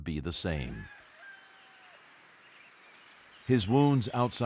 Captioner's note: rooster crowing